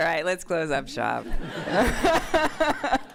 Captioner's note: laughter